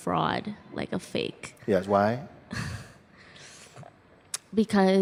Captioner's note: questioner chuckles